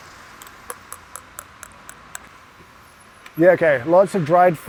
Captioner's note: traffic rumbling